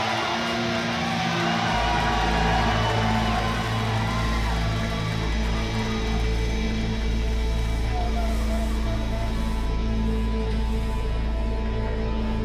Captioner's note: cheers and applause